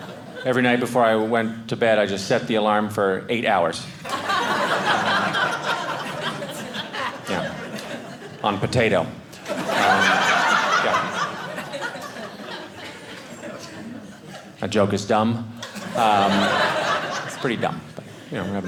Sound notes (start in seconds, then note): 4.0 audience laughing; 15.6 audience laughing